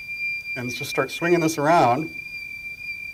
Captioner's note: high-pitched noise